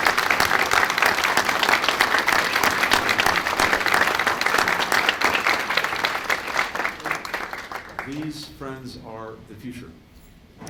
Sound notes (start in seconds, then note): 8.1 applause